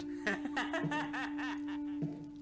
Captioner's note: laughing